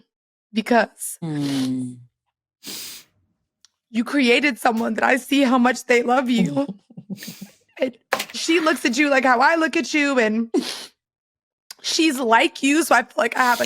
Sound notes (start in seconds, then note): 6.5 chocking up